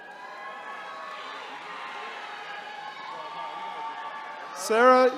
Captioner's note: attendees cheering